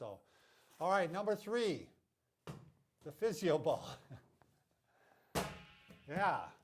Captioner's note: laughing